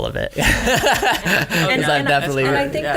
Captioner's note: laughs